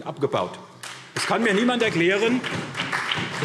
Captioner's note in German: Beifall SPD